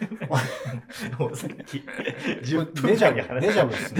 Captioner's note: laughing